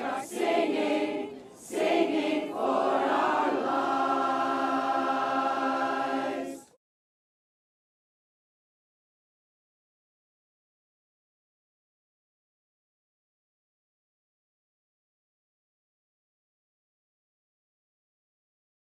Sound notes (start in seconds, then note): 7.0 silence